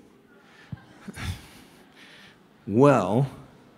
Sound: laughter

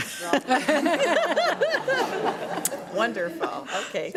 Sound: audience laughs

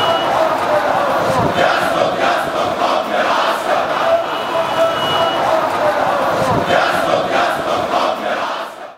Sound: chants

